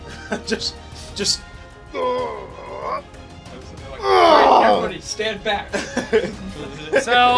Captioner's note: grunts and Growls